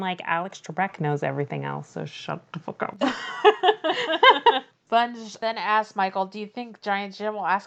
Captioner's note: laughs